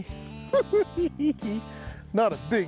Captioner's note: laughs